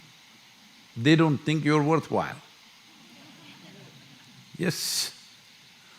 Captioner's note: few laugh